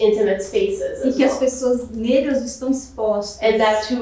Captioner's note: speaking portuguese